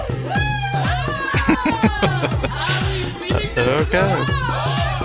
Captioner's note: laughing